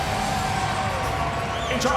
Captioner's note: audience cheering